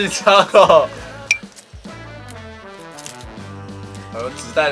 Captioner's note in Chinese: 交換位置 擾亂紙袋聲音